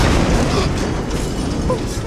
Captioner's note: explosion; gasps